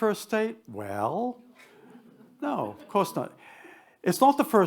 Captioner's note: attendees chuckle